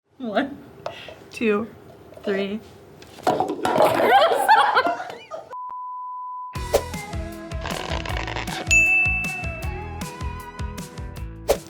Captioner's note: laughter